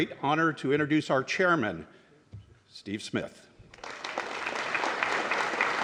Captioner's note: applause